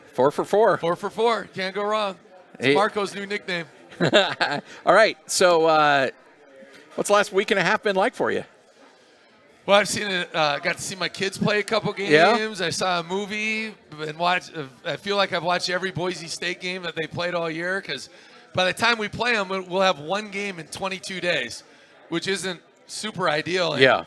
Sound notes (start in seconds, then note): 3.8 laughter